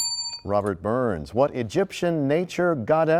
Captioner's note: bell rings, time expires